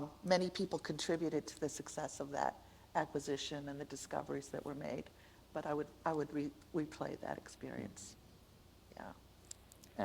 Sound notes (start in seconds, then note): none